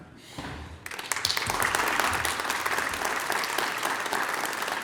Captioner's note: applause